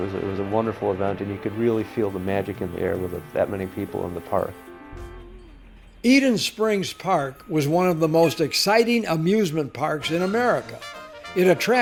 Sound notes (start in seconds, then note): 6.3 voiceover